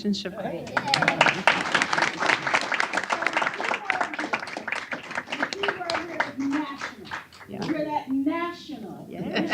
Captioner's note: applause